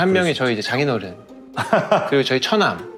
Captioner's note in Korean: 웃음